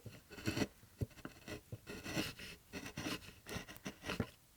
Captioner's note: wood scraping